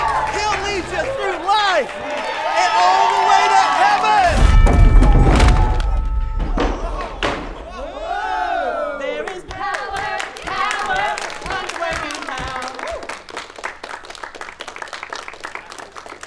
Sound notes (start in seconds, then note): 4.2 podium crashes; 12.8 congregation applauds